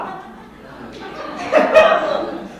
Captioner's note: audience laughs